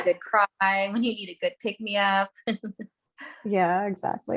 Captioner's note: laughs